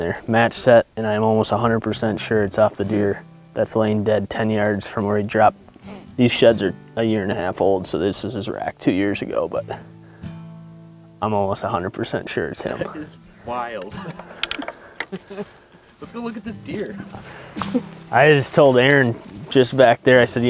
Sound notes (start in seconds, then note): 13.7 antlers clanking; 13.8 chuckling